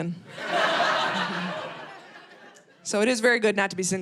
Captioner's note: audience laughing